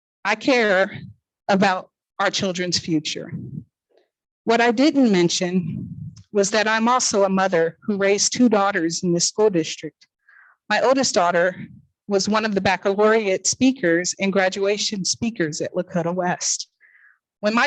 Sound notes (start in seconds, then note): none